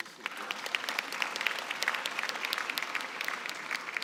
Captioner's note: applause